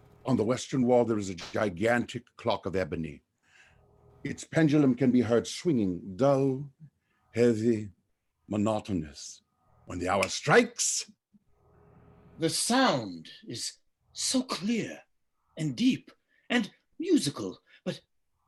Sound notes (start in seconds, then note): 10.2 snaps finger